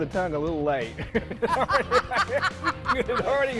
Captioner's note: laughter